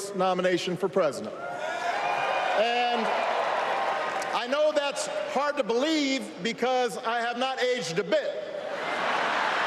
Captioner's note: applause